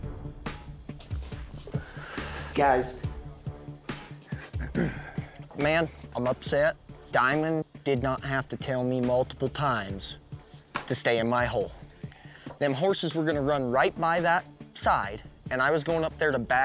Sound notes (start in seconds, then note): 0.0 tense music; 4.3 clears throat